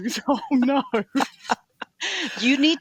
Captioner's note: laughing